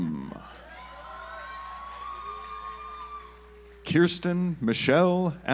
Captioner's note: audience applauds